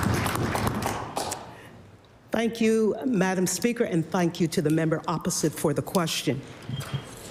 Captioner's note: applause